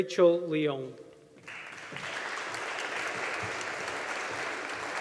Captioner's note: audience applauding